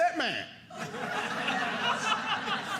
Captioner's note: audience laughing